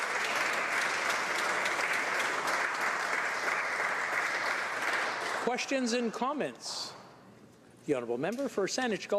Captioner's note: applause